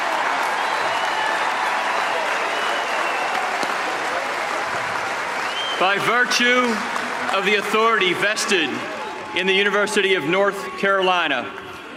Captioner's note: cheers and applause